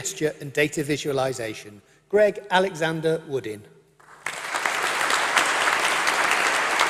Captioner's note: applause